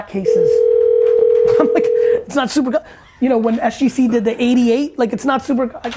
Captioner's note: laughs